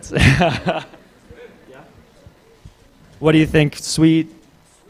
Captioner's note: laughs